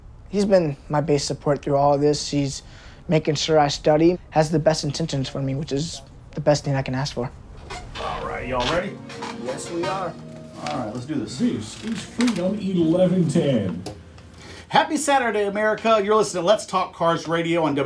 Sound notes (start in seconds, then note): 7.5 chair squeaks